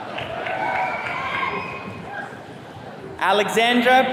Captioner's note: attendees cheering